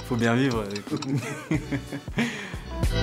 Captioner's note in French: Rires